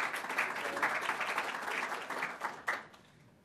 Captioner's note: clapping